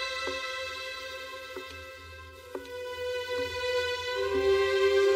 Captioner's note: footsteps e echoing